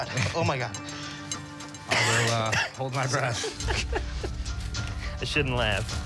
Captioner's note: laughing